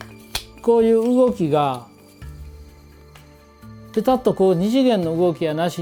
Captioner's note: speaking foreign language